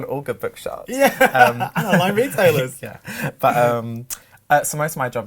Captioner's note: laughs